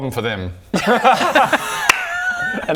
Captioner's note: gross laughter